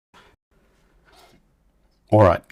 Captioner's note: silence